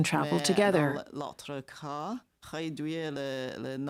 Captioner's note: speaking French